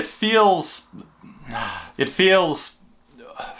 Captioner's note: sighing